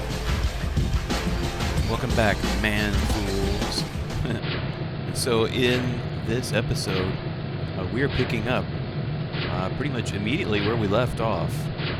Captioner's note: laughs